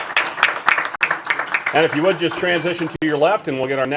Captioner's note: applause